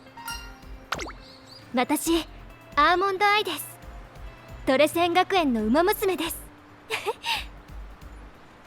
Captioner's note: laughs